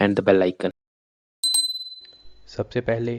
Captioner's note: bell sound